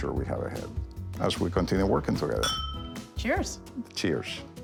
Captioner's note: glasses clinking